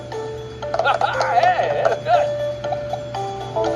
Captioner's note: Martin cheers